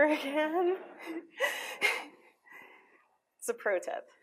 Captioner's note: laughs